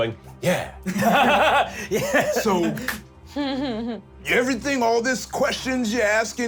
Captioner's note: laughs